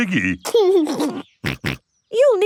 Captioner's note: giggles and snorts